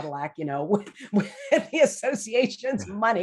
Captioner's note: laughing